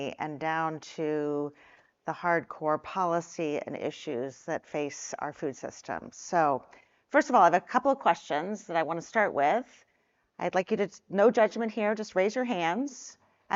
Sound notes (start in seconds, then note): none